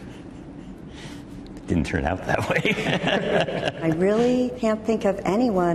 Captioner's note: chuckles; laughs